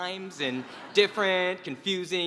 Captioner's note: laugh